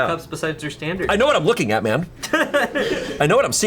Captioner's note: colleagues laughing